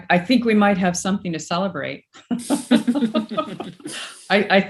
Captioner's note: chuckles